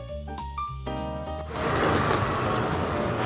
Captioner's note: slurp